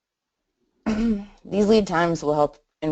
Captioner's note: clears throat